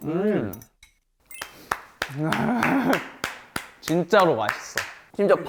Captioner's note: solo applause